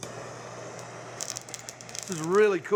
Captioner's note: chili sizzling